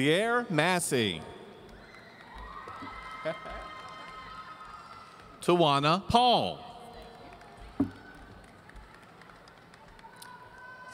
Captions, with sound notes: Ziere Massey. (audience cheering) Towana Paul.